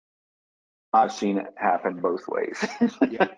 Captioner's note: laughs